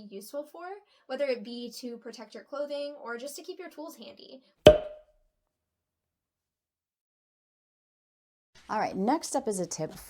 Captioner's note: ding